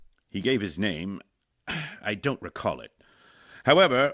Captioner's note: sigh